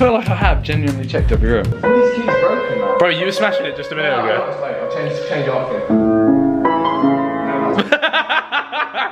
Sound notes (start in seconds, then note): 6.2 laughing